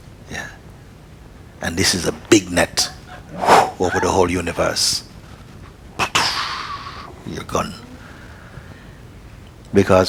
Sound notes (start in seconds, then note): 3.2 sounds of catching